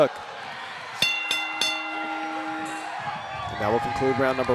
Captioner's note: bell rings